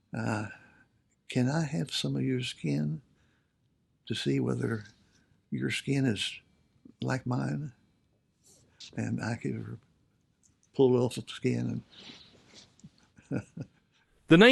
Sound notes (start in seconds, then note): 13.2 chuckles